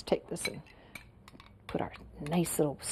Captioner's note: light tapping